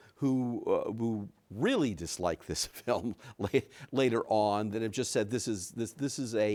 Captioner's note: chuckles